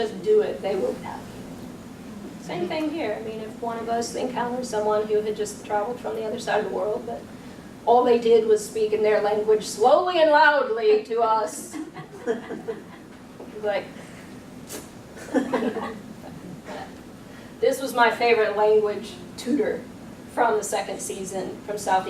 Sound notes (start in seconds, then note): 12.5 tongue clicking; 15.2 audience chuckling